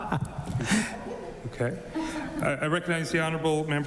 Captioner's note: laughter